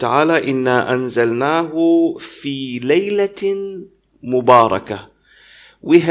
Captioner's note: arabic - 44:3